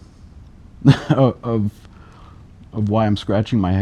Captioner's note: laughs